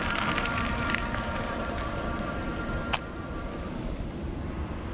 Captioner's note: bike engine roaring